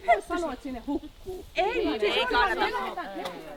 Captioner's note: people disaggreeing in unison